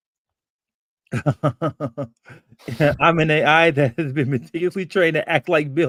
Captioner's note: chuckles